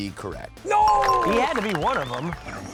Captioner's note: bell dinging